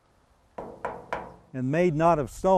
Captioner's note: metal clangs